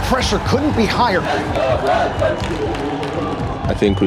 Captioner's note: narrator in English; crowd